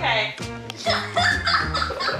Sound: laughing

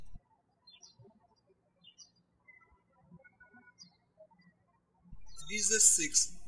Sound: birds chirping

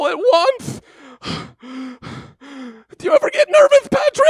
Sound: heavy breathing

